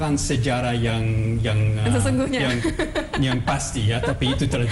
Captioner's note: non-english speech; non-english speech; laughing; non-english speech